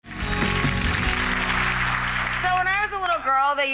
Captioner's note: audience applause